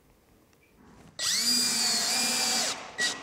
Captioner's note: drilling noises